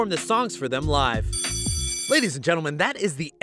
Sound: school bell rings

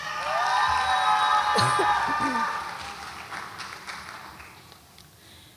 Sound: audience applauds and cheers

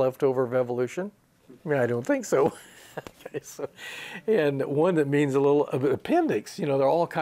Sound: he laughs

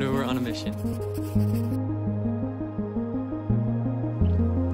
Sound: pen scratching

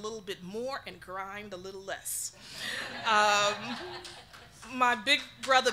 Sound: audience laughing

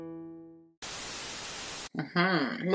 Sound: TV static hisses

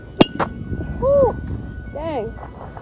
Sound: tennis ball hitting metal bat; whoo's in surprise

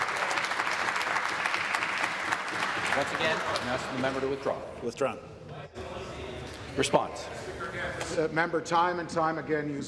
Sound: applause

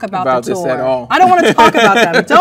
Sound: man laughs

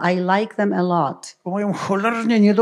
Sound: foreign language

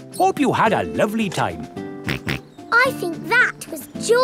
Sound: snorts

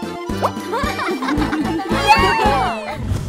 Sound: giggling

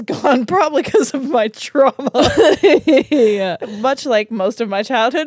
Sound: laugh

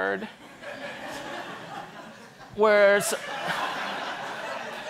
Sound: audience laughing

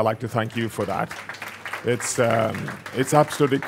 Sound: applause

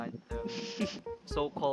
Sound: giggles

